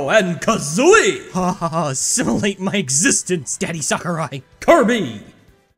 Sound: happy shudders

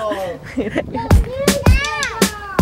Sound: laughing

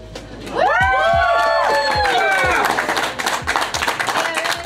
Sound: crowd clapping and cheering

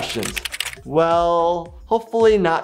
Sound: keyboard clicks

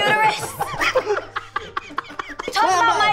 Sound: laughing

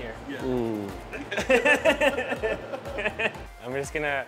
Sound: laughter

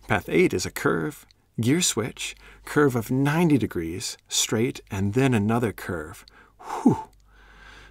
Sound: whew

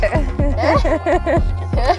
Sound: laughing

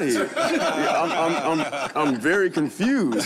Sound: all laugh

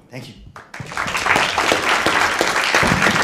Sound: applause

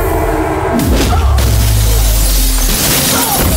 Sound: glass shatters

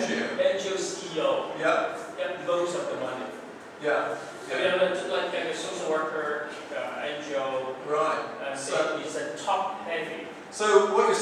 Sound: audience Speaking

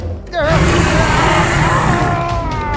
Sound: albertosaurus roaring

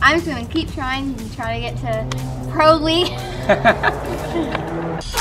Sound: laughter

